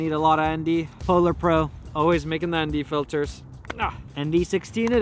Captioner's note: grunts